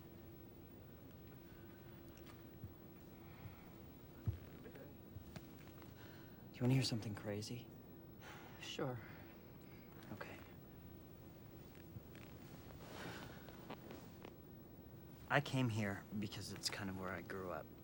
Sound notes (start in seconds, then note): none